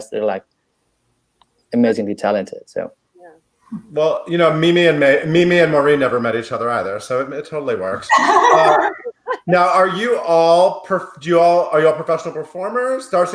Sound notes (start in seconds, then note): 8.0 chuckles